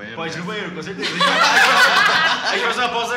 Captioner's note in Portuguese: Risadas